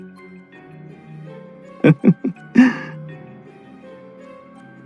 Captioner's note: laugh